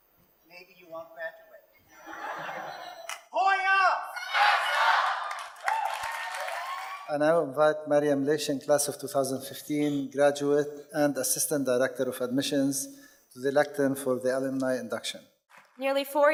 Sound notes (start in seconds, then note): 3.9 crowd chants; 6.1 audience cheers and applauds